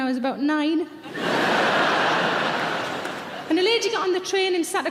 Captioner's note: audience laughing